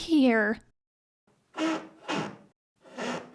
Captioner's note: squeaking